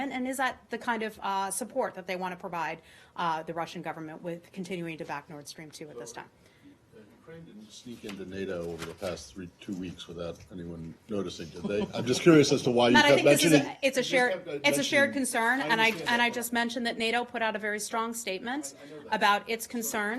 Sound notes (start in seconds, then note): 11.5 laughter